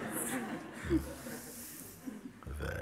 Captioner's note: smiech